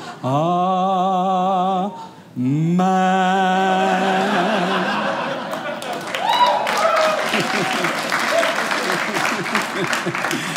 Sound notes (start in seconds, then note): 3.9 audience laughing; 5.5 audience applauding